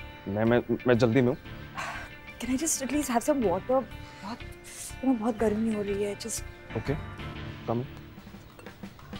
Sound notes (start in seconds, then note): 1.9 Exhales sharply